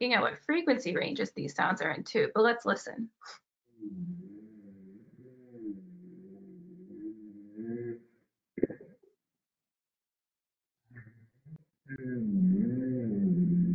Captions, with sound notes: by looking what frequency ranges these sounds are in too, but let's listen. (low pitched groaning and mumbling)